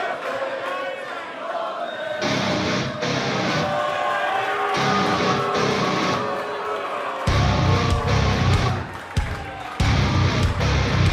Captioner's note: fans chanting